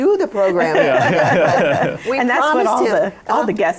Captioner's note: laughter